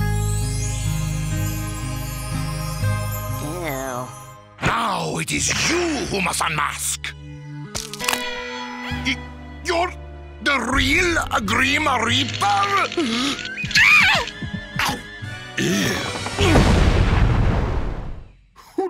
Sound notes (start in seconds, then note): 7.7 bones crack; 13.6 screams; 16.3 body thuds